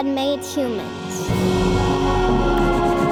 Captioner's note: breath blowing; triumphant music